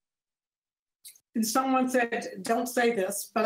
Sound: none

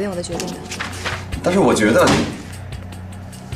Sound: bang!

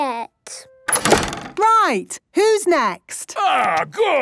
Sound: doors slamming

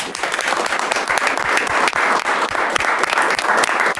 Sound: everyone applauds

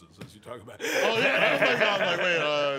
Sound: laughs

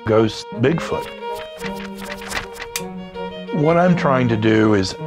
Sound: paper shuffling

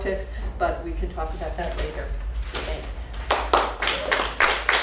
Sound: applause

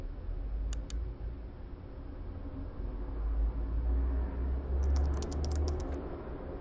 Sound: none

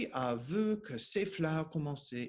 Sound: speaking French

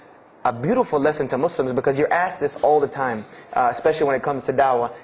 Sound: preaching

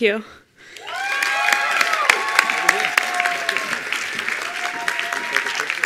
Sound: attendees applauding

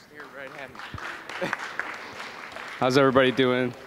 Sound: applause

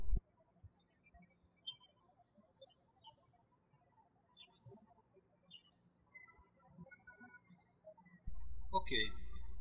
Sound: birds chirping

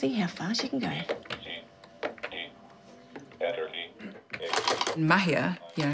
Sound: braille typewriter calls out letters

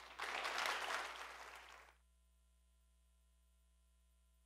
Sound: audience applauding

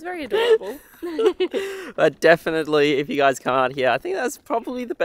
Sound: laughing

